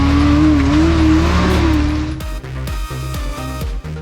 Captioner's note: engine roars; upbeat electric music